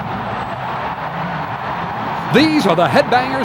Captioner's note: crowd cheers